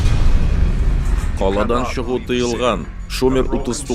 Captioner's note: from aircraft loudspeaker